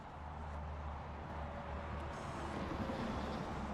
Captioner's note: traffic noise